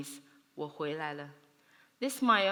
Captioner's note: speaks Chinese